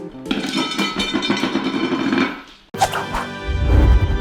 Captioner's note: clatters; fanfare